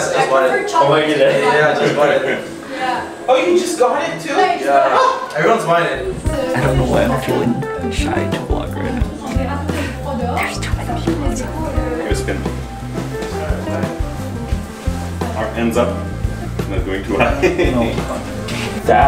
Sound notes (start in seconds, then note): 5.1 laughs; 10.5 whispering